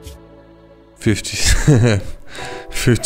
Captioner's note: laughter